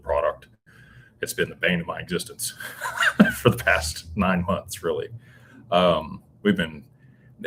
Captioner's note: laughter